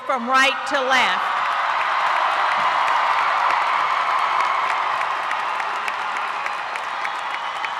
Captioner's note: applause